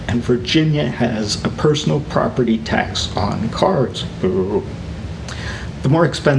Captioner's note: boo